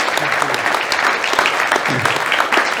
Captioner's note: hand clapping